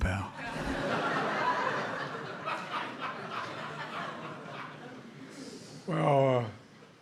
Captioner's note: laughter